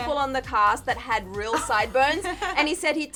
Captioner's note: chuckles